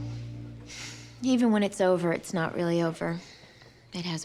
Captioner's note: sighs